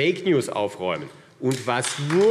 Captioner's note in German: Beifall AfD